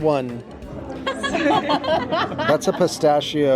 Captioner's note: table laughs